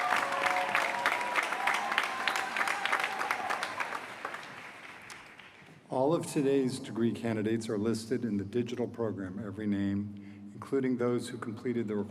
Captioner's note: applause